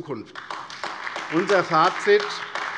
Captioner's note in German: Beifall AfD